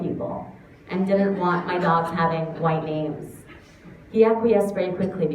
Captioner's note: laughter